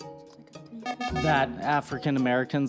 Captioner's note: times-Up Buzzer